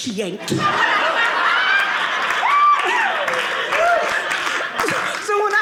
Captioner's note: audience laughing